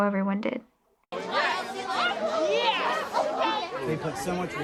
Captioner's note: excited chatter